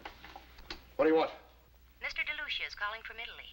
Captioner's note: voiceover